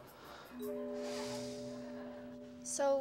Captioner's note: Billy sighs